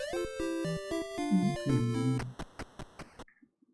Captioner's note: humming along